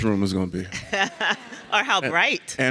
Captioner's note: and audience laughs